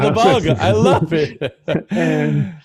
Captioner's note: laughs